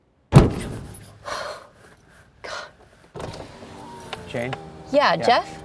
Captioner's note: window bangs; Jane gasps